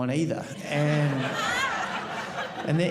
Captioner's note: audience laughing